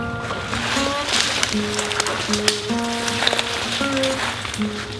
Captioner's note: dog splashing in the water